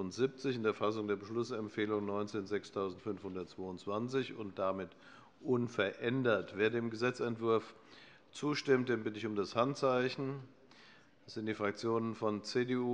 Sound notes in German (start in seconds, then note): none